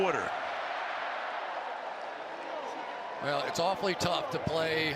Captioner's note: cheering